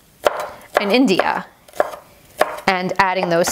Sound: chopping garlic

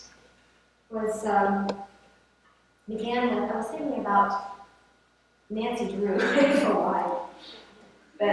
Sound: laughs

